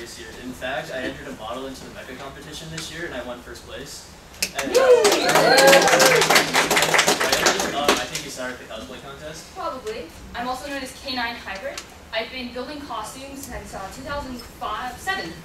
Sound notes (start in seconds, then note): 4.4 clapping